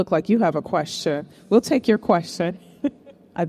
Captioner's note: chuckling